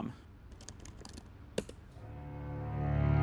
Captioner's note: typing noises